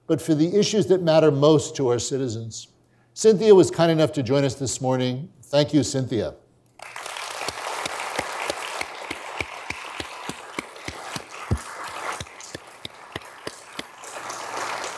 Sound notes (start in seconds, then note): 6.8 audience applauding